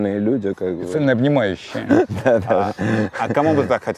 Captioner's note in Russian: Смеясь